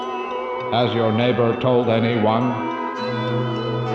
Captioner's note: robotic Voice